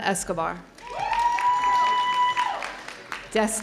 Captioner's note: audience cheering